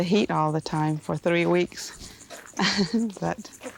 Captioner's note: laughs